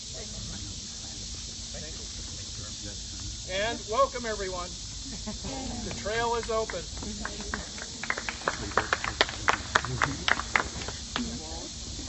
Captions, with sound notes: And, welcome everyone! The trail is open. [applause]